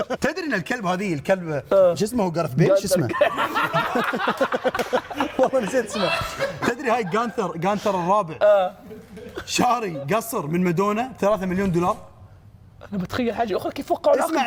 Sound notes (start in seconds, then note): 3.0 laughs